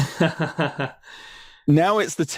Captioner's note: laughs